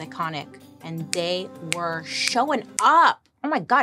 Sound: snaps

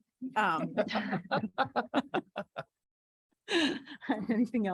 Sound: board laughing

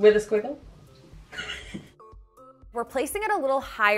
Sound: chuckling

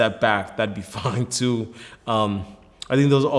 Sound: laughs

